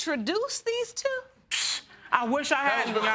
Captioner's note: scoffing